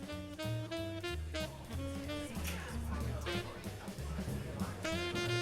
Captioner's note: background chatter